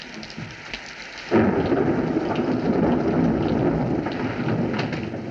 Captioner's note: thunderclap